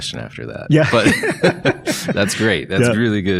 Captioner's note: both laughing